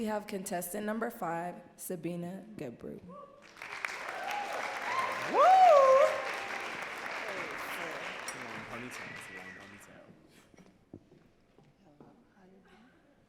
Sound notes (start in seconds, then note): 6.5 audience cheering and clapping